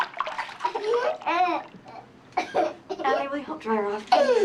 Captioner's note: molly crying